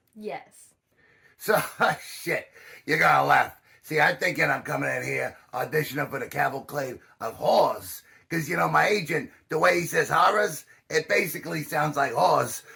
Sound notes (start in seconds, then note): 1.4 laughs